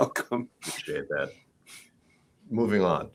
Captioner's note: laughs